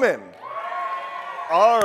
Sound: crowd cheers loudly

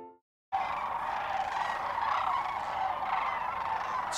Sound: crane song

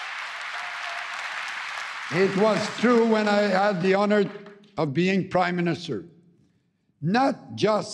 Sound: applause

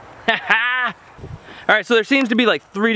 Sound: laughs

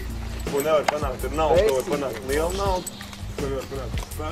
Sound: laughing

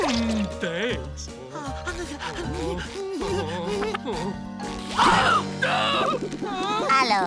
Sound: groaning

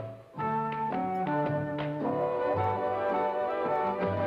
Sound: fingers snapping; thighs slapping

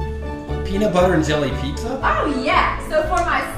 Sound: voiceover

